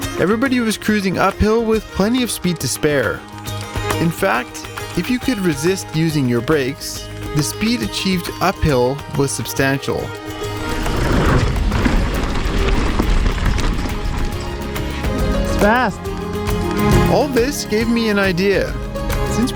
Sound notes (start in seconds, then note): 10.3 bike wheels rumbling